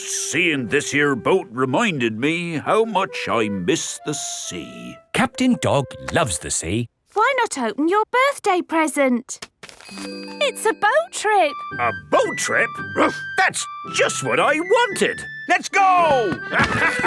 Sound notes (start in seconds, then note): 13.1 barks; 16.3 all laughing